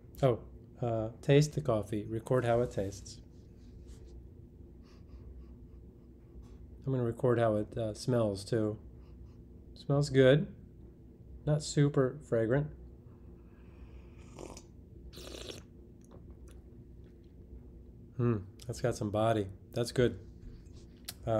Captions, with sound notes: Oh, taste the coffee, record how it tastes. (sniffs) I'm gonna record how it smells too. Smells good, not super fragrant. (slurps) Hmm, that's got some body, that's good.